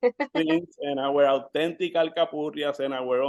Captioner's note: speaking Spanish